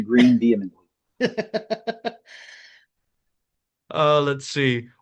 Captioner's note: laughing